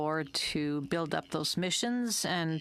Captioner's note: speaking French